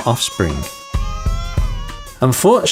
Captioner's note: babies crying